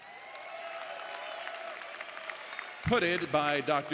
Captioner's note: audience applauding